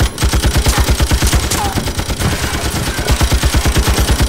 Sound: gunfire continues

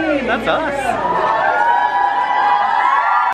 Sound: cheering

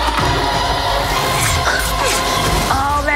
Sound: slicing

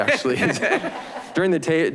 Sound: all laughing

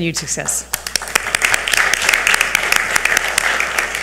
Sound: audience applauds

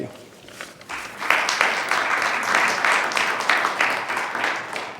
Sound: attendees clapping

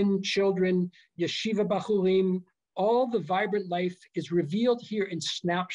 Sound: non-english speech

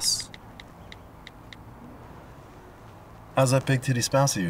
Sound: phone keyboard clicking

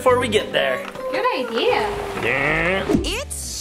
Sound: Chelsea humming; upbeat music; car revving

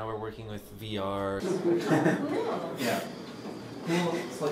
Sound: laughter

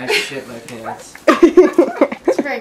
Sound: laughing

